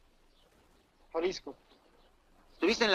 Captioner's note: officer speaks Spanish; driver speaks Spanish; officer speaks Spanish